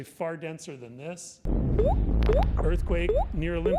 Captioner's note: rumbling and pinging sound